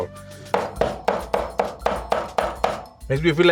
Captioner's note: rhythmic tapping